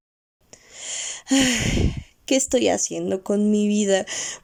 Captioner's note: sigh